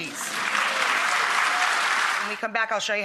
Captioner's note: audience applause